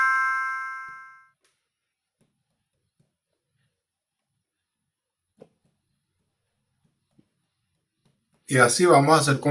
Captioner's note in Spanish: campana